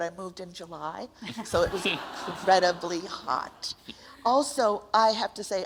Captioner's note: audience laughs